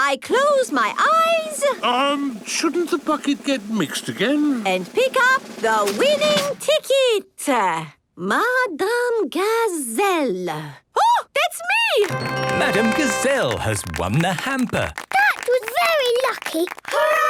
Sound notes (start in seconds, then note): 12.0 applause